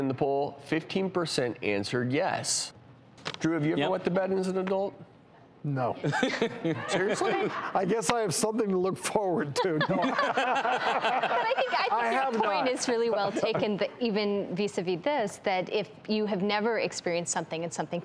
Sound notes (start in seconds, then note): 6.0 laughs; 9.5 laughter